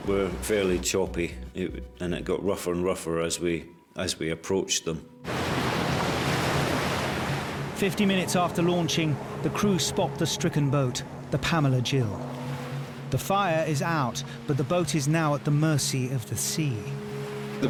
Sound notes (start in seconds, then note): 5.4 sea gushes